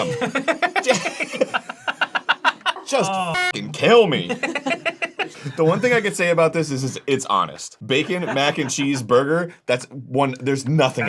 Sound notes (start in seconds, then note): 0.0 everyone laughs; 4.0 laughs all around